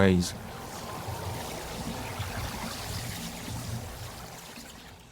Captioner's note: water swishing